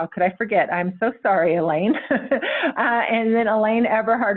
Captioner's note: chuckles